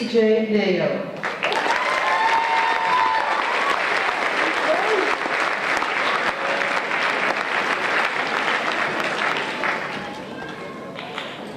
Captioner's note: applause